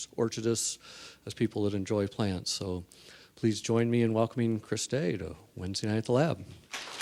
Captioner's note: applause